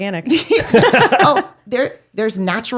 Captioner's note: laughing